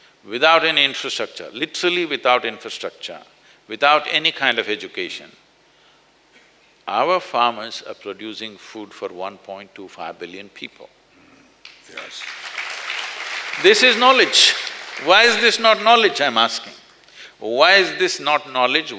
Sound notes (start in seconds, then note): 11.7 applause